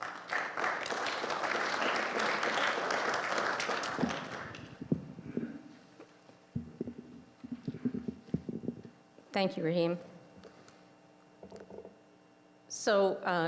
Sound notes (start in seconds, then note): 0.0 applause